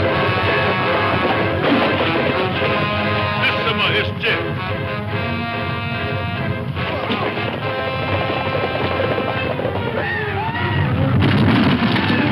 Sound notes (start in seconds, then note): 3.1 speaks in foreign language; 7.0 dramatic music